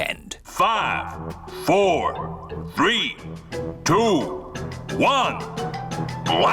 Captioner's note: on speakers